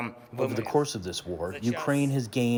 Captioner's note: through translator